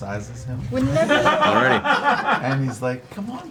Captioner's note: all laugh